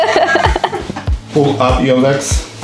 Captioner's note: laughing